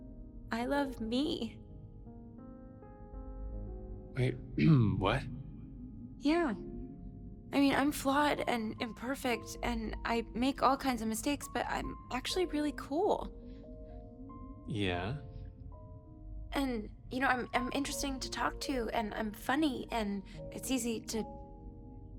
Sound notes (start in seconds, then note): 4.1 clears throat